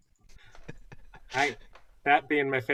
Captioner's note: laughter